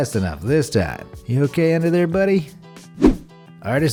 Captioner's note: air whooshing